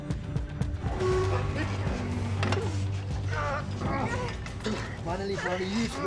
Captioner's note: grunting